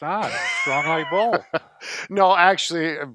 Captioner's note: laughing